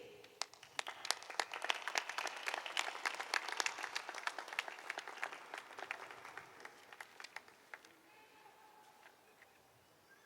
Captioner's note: applause